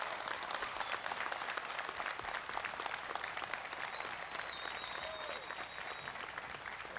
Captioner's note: applause